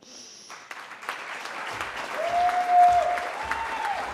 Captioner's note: cheering